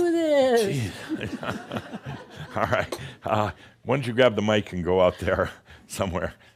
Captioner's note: laughter